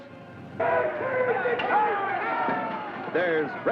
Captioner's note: crowd shouting